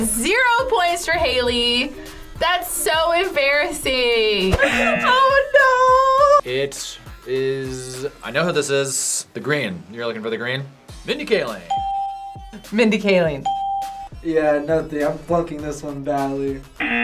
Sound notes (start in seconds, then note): 4.5 laughs; 11.7 bell rings